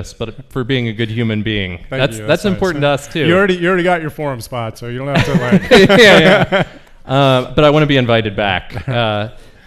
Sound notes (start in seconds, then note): 5.1 men laugh